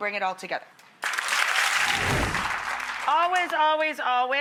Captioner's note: audience applauds